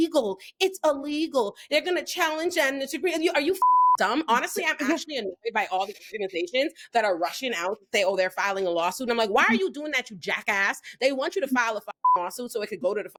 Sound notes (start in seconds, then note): 3.6 beep; 12.0 beep